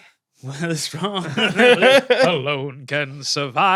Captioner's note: group laughing